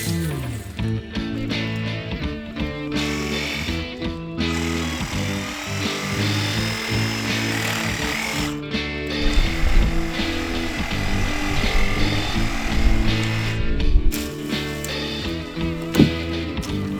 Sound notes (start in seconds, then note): 2.3 chill rock music continues; 6.9 saw buzzes; 12.7 chill rock music